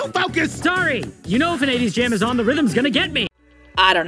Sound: clap

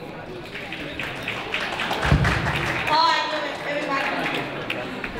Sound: crowd talking; crowd applauding

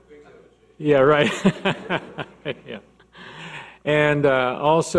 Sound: laughs

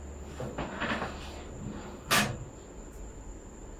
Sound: bed creaking

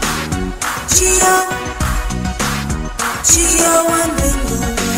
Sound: clap

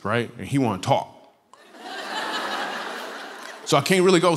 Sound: laughter

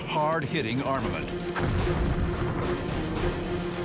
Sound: booming

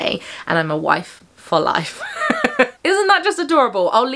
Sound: laughing

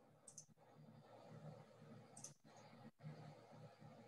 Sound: mouse clicking

